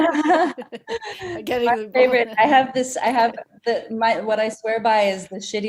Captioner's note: laughing